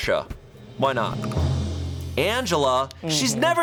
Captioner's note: tense music building; button clicks